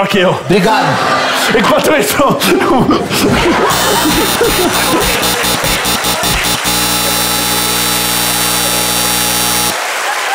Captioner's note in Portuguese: campainha e aplausos